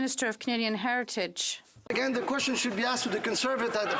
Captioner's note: some Applause